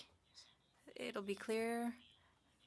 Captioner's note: speaking French